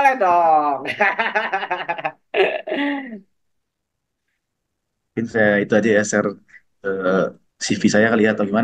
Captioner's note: laughs